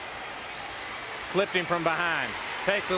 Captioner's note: crowd cheering